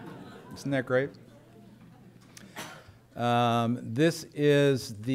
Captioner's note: laughter